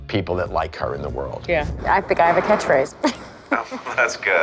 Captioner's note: chuckles